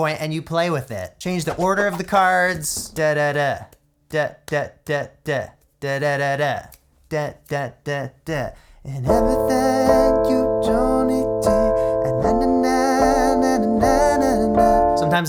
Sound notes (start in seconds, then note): 2.6 vocalizes rhythmic beats; 8.8 synth chords with wordless vocals